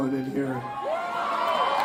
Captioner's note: crowd Cheering